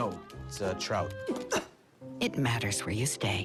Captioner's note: gags